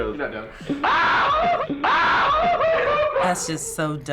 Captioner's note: loud whooping in video